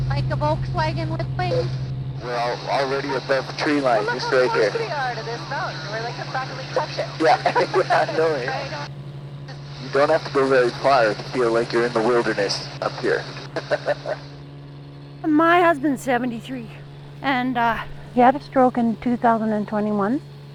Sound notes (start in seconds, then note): 6.9 chuckles; 13.5 chuckles